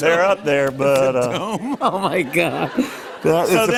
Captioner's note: laughter